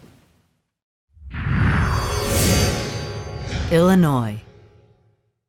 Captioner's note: sound effect